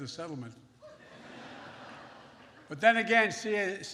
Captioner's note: laughter